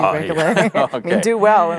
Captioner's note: both laugh